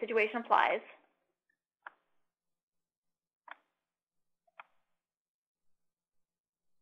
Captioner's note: typing Sounds